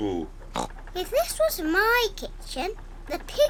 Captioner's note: oinks